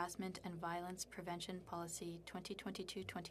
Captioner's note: speaking French